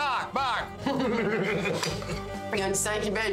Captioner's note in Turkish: Gülüyorlar